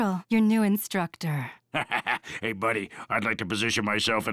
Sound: chuckles

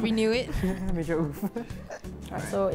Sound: laughter

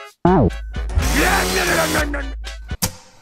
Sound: lawnmower sound

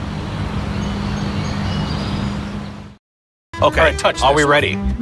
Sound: birds chirping

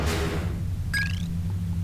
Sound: ding chirp

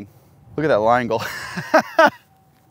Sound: laughs

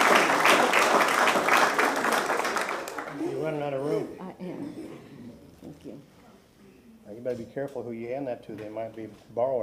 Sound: applause

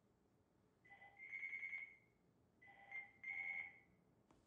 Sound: phone ringing

